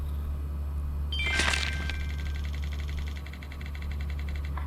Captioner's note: computer chimes